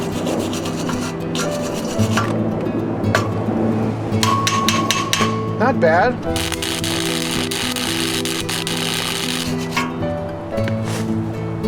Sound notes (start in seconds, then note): 0.0 sanding noise; 4.2 hammering; 6.3 sparking noise